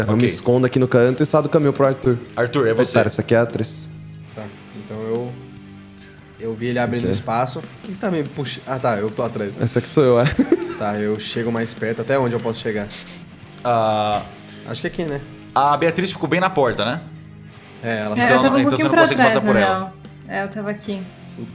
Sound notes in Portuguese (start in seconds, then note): 10.2 risada